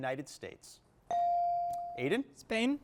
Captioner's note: bell chiming